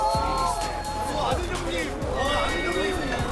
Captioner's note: scream